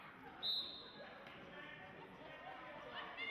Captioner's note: whistle blows; crowd talking and yelling